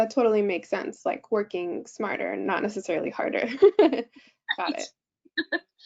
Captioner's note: giggles